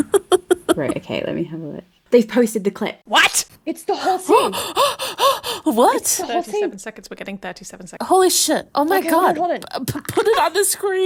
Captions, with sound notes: (laughing) - Right. Okay, let me have a look. They've posted the clip! - What? - It's the whole scene. (heavy breathing) - What? - It's the whole scene. - 37 seconds, we're getting 37 seconds. - Holy shit. Oh my god. Put it on the screen.